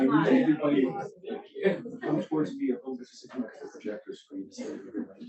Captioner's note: speaks faintly